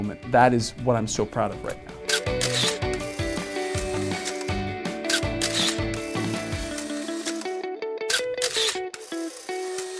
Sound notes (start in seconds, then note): 2.1 camera clicking; 2.1 upbeat music